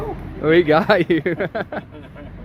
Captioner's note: laughs